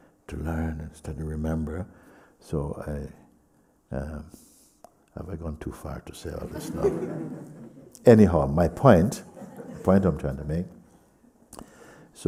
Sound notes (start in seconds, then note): 6.4 laughter